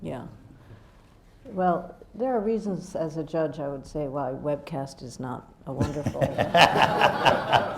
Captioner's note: laughter